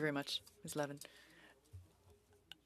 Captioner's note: speaking French